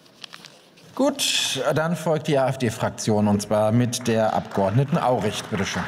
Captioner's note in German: Beifall